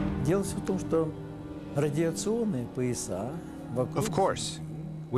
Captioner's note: speaking russian